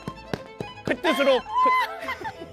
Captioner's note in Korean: 오열